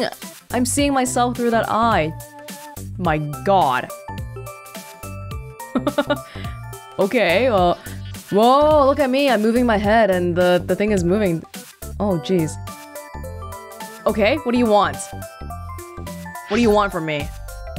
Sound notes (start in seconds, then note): 5.7 chuckles